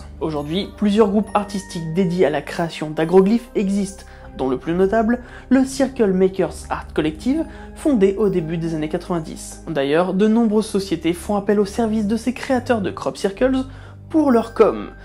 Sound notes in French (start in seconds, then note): none